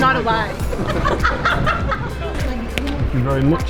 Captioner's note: laughter